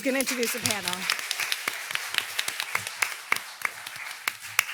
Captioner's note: audience applauding